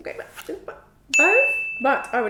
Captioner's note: bell dings